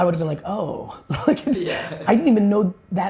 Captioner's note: laughing